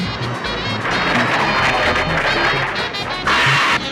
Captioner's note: roaring